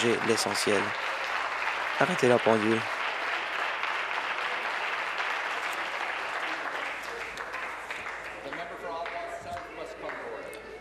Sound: applause

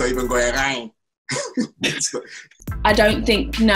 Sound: laughing

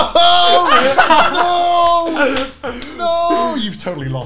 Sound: all laughing

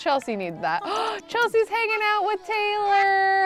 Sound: gasps

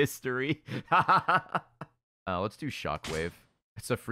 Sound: laughs

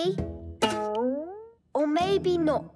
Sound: twanging sound

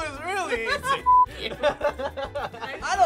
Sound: laughs hard; laughs

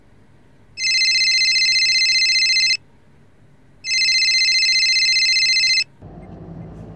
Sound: phone ringing

